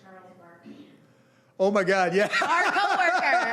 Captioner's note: laughing